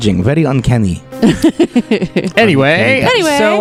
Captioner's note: laughter; laughs